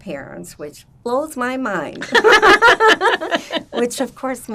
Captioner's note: laughing